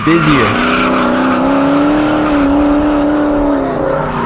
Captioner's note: engine roaring and tires screeching